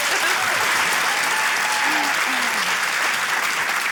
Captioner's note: cheering, applause